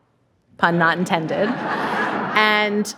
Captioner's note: audience laughing